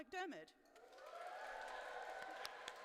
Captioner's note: applause